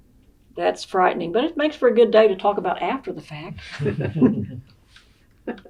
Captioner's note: laughter